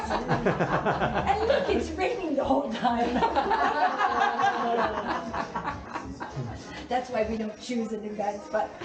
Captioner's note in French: rire